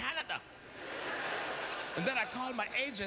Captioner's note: audience laughter